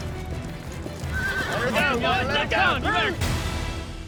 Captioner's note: horse neighing, bucking